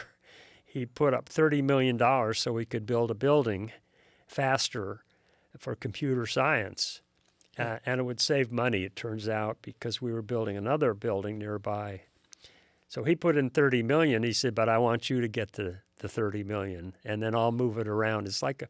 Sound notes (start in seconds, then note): none